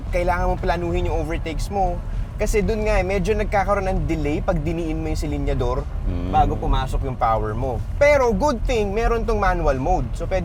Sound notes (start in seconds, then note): none